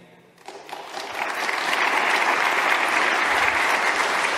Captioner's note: audience clapping